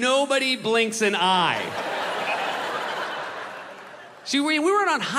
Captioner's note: crowd laughs